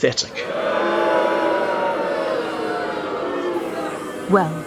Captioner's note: booing